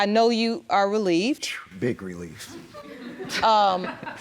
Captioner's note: audience laughing